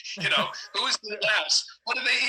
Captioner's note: chuckle